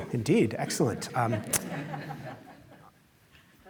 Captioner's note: laughter